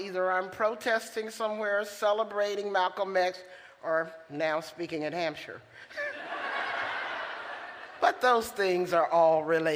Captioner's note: laughter